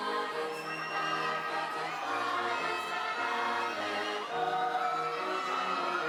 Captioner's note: people chattering drowns out singing